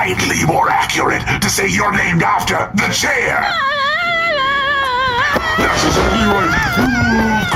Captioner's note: screaming and running away